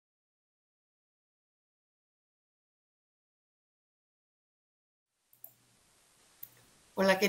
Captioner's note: silence